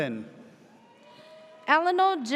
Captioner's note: audience cheers